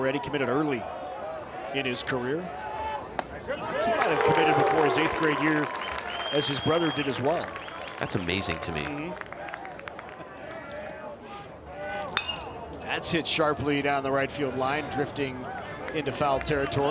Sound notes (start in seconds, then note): 3.6 crowd cheers; 12.1 bat tings